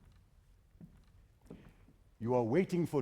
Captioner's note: footsteps